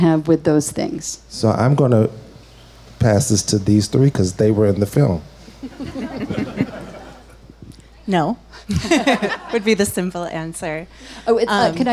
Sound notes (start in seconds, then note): 5.6 laughs happily; 8.5 chuckles shortly